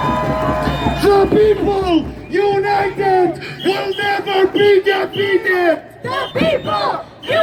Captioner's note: chant